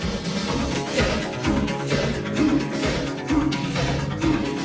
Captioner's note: chanting